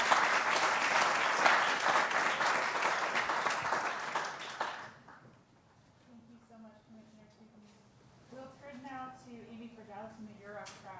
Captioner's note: applause